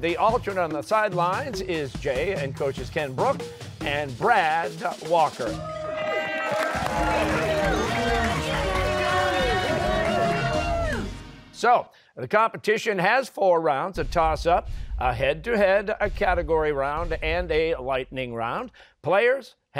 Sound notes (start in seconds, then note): 5.5 cheers and applause